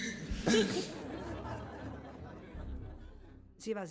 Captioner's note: laughter